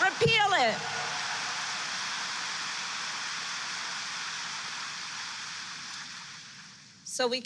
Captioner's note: applause